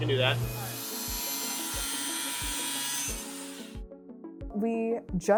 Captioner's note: saw buzzing